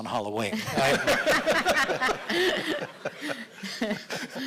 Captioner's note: audience laughing